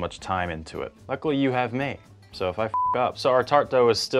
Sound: beeps

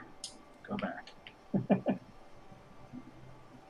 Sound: chuckles

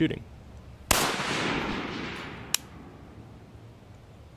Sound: gun firing

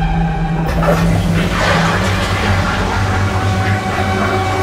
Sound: toilet flushes

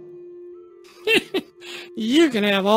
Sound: laughing

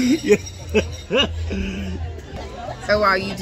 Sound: laughs

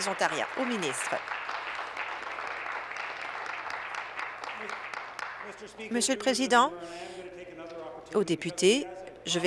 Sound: applause

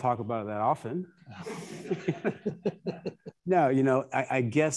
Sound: attendees laughing

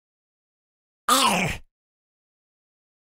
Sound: sound of zombie

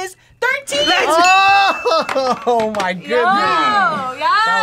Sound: laughs

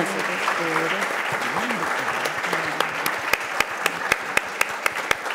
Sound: audience applauds

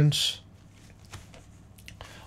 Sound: silence

